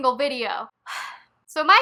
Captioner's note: sigh